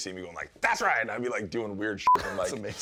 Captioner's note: beep